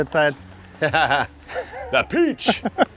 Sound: laugh

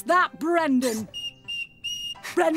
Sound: whistling!

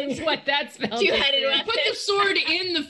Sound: group chattering

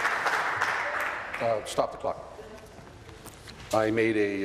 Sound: applause

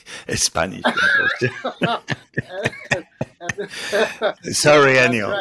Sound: laughing

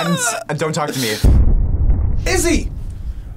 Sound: explosion echoes

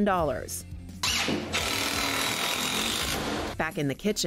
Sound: drilling

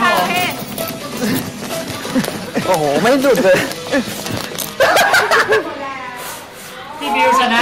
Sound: furious shaking

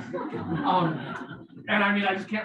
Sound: people laughing

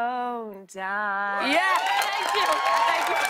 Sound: cheers and applause

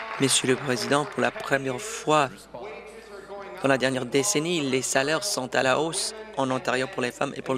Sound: applause

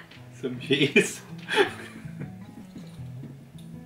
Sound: laughing

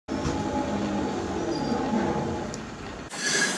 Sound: city sounds

